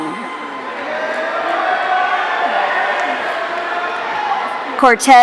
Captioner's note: audience cheering